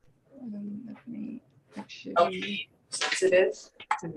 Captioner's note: indistinct conversation